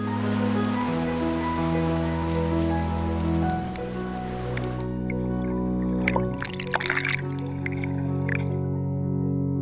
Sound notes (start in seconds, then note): 4.3 water sounds